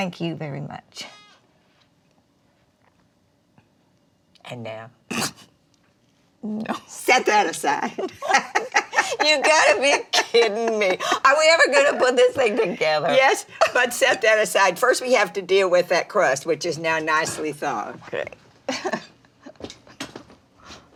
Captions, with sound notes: - Thank you very much. - And now- (Dory snorts) - No. - Set that aside. (both laughing) - You've got to be kidding me. Are we ever gonna put this thing together? - Yes. But set that aside. First, we have to deal with that crust, which is now nicely thawed. - Okay. (chuckles)